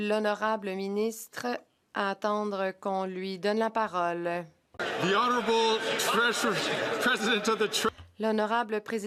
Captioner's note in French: voix de l'interprète